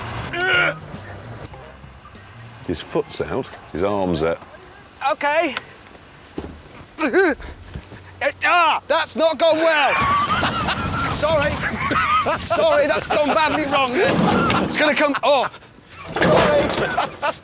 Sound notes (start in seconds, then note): 10.0 jeremy and james laugh